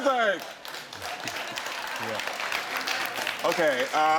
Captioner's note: scattered applause